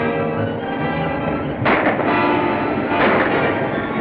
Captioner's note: gunshots